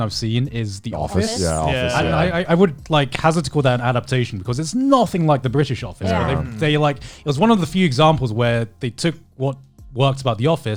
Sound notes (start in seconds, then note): 6.0 group humming in agreement